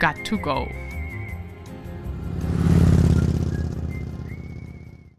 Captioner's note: lively music; bike engine roaring